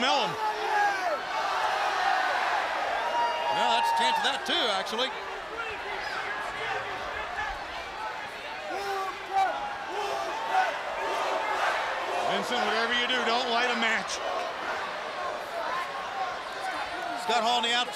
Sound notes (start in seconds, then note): 5.1 crowd cheering; 9.3 crowd chatter; 10.3 crowd cheering